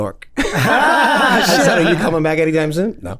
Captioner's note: men laughing